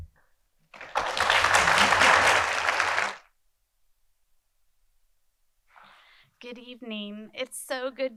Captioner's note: applause